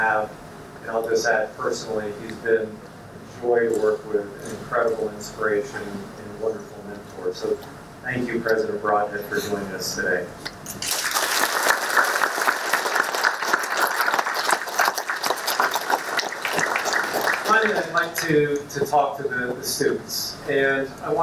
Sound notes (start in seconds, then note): 10.8 applause